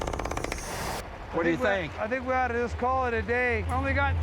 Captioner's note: drillstops